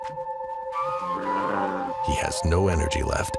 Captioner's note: bear growls